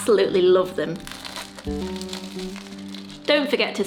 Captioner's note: crunching sound